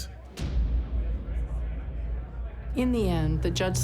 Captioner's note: people chatting